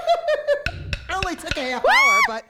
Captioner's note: laughs; taps